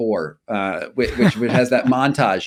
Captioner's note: laughing